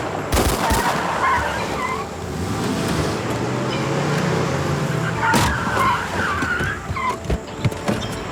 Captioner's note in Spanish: Disparos; Ruido de los vehículos